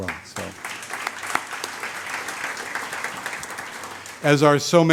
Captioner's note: audience applauds